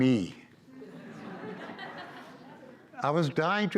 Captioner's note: audience laughs